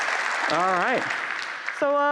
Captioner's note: applause